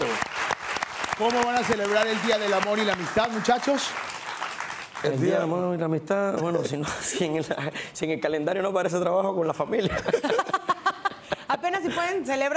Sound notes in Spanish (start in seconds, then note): 0.0 Aplausos; 9.8 Risas